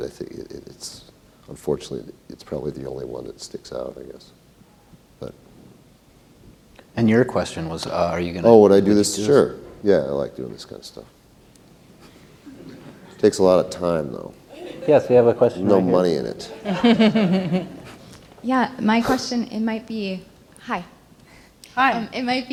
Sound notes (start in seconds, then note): 16.4 laughter